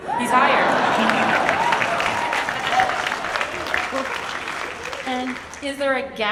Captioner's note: audience applauds and cheers